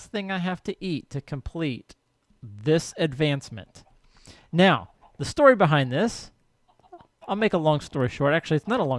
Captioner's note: clucking continues